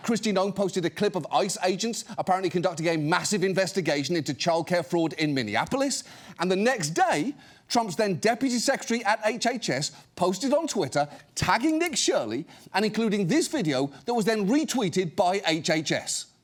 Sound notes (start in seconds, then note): none